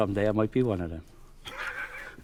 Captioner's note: laughing